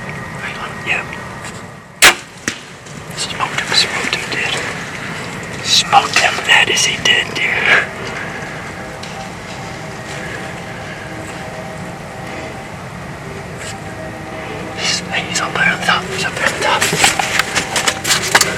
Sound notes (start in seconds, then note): 0.1 sound of bowshot; 8.4 sound of light wind